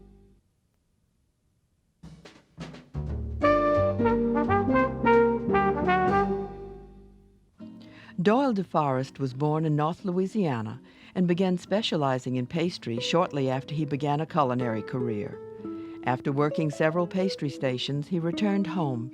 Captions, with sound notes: (lively jazz music) - [Voiceover] Doyle DeForest was born in North Louisiana and began specializing in pastry shortly after he began a culinary career. After working several pastry stations, he returned home